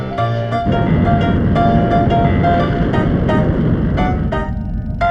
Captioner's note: rocket whooshing